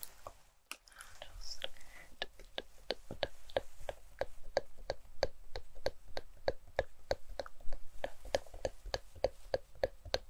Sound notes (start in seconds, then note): 2.4 dabbing mouth sounds